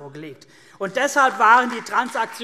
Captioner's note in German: Beifall CDU und BÜNDNIS 90/DIE GRÜNEN